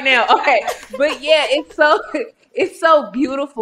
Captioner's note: laughing